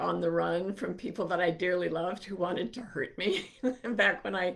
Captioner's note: chuckling